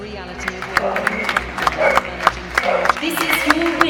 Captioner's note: applause